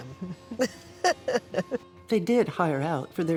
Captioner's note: both laughing